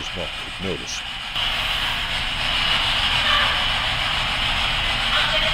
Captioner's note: static buzzing